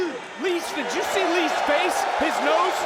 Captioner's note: audience cheering